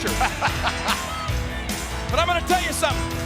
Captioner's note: McMahon chuckles